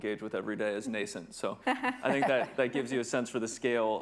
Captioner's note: chuckles